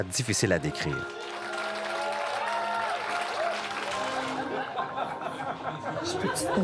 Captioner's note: shouts and applause